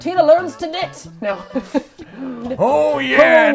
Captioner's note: chuckles